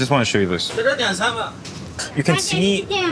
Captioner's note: kitchen staffs speaking in foreign language